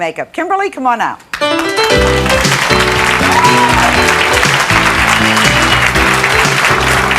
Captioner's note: audience clapping; jazzy music